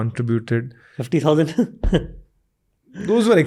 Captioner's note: chuckles